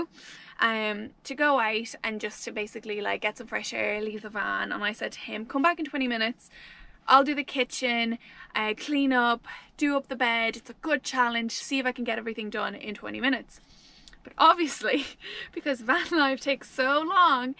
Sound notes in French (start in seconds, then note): none